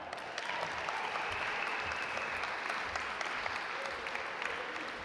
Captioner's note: audience applaud